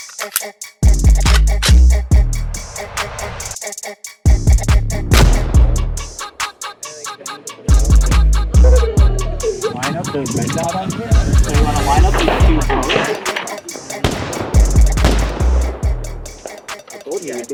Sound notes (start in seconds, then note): 5.1 gunshot; 8.5 giggling; 14.9 gunshot